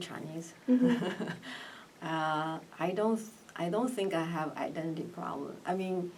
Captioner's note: laughs